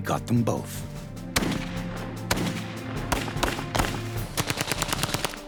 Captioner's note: gunfire